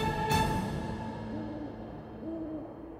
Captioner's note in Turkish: Baykuş sesi